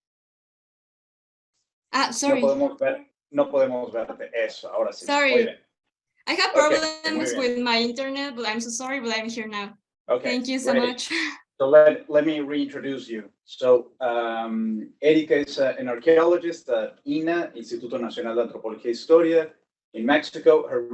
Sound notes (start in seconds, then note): 2.9 speaking Spanish